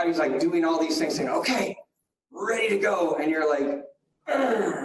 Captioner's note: grunts